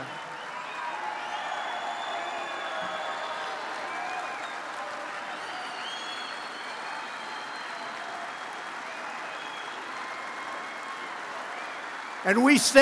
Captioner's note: applause